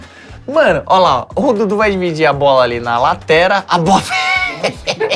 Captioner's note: risos